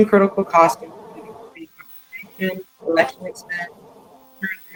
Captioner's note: speaks faintly